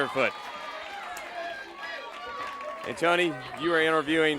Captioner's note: crowd chatter